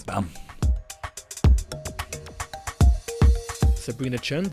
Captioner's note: voiceover